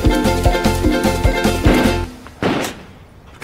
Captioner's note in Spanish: Disparos